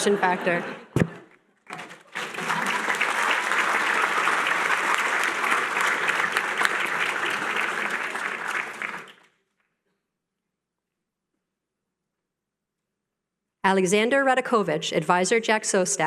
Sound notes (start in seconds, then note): 1.6 applause